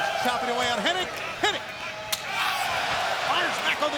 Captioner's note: slaps smacking